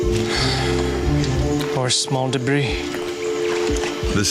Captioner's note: sighs